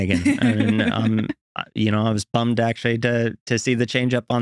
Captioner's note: laughing